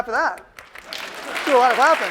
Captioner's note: applause